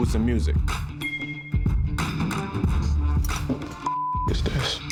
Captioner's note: beeps